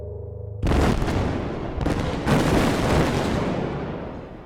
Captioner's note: loud gunfire